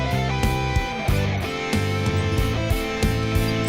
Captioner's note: wheels squeaking